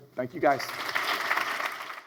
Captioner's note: audience applauds